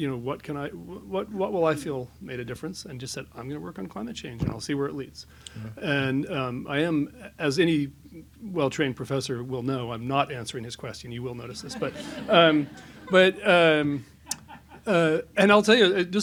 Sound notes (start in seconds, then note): 11.6 laughs